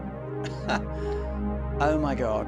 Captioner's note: laughs